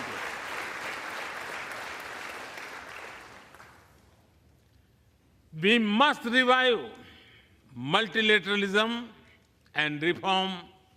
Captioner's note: applause